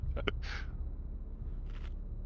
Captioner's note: laughing